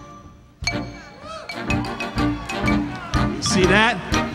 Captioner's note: upbeat instrumental music; audience cheering